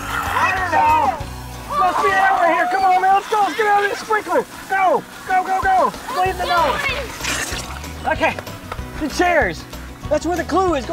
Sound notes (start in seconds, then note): 0.0 yelling